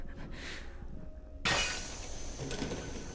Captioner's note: item smashes